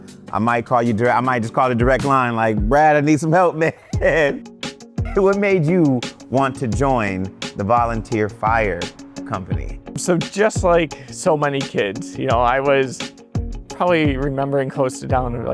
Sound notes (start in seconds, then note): 5.0 laughs